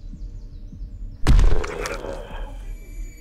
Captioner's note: birds chirping; suspenseful music; mummy growling; knife thumps; intense music